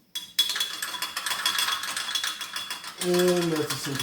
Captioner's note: tools clattering